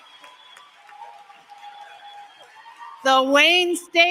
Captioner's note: applause; cheering